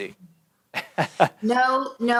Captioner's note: laughs